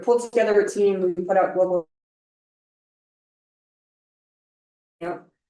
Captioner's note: sound cuts out